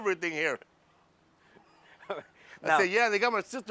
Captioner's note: laugh